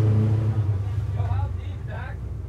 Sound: boat engine roaring

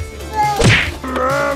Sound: slamming sound effect

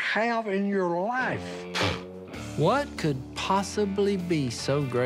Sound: scoffs

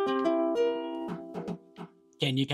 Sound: knocking on ukulele

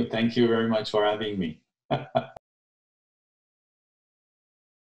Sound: laughs

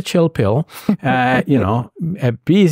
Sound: laughing

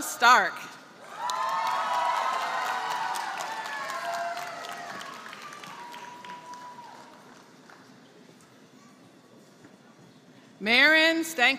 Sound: applause

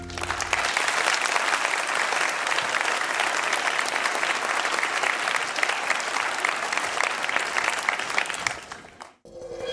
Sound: applause

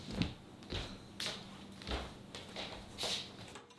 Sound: footsteps

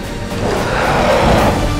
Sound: roars

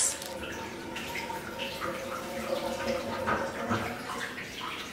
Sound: water dripping

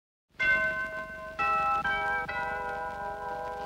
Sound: doorbell chimes

